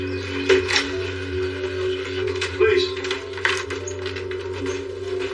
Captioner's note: doooor creaks